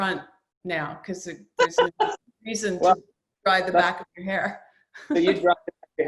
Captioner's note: laughs